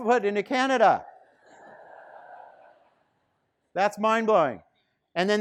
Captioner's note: students laughing